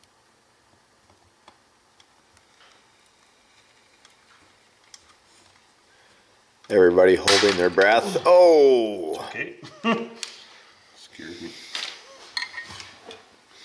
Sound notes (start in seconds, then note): 7.6 tab snaps; 9.6 laughs